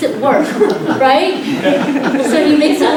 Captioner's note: laughter